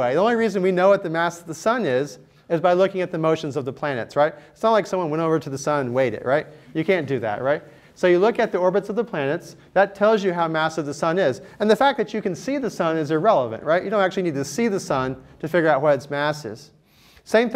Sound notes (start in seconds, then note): none